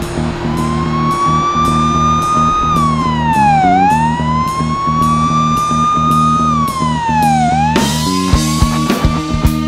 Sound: rock music; police sirens

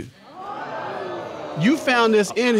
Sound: audience gasps

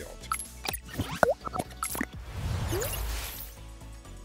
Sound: beeping

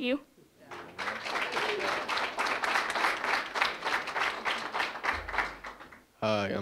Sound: applause

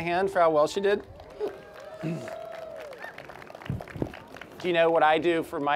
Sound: applause

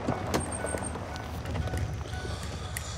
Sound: beeping

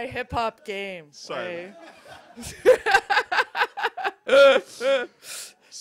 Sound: laughter

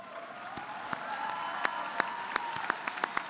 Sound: applause

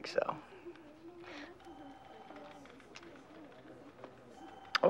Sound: phone ringing

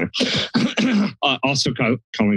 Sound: clears throat

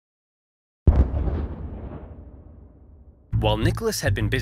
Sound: ominous sound

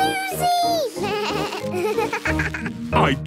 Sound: bleating, laughing

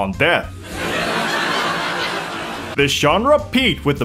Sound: laugh track of the tormented adults

